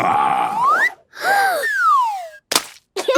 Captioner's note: Peppa gasps; splat